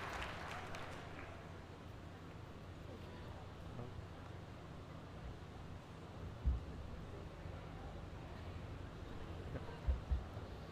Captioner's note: applause